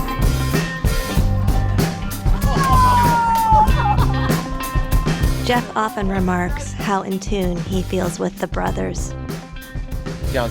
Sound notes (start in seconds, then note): 2.4 cheering